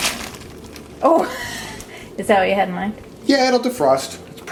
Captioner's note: laughing